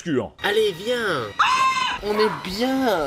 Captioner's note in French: Cri de panique